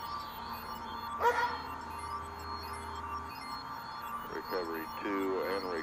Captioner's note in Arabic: نباح الكلب